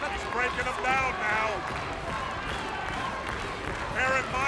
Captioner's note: crowd cheering